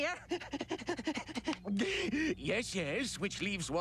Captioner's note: panting